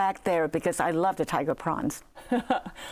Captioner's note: laughs